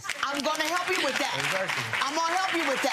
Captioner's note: audience applause